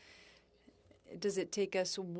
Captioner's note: speaking French